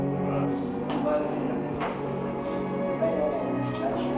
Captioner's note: people chatter